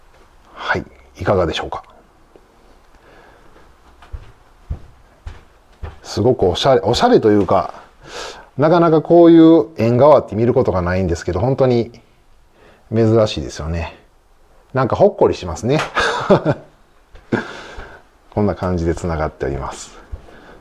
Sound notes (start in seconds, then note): 15.9 laughs